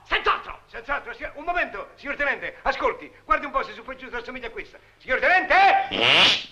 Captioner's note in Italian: pernacchia